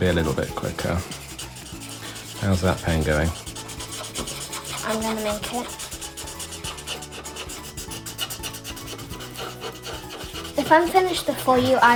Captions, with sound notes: - Yeah, it's gonna be a little bit quicker. How's that paint going? - I'm gonna make it. (sketching sounds) If I'm finished before you,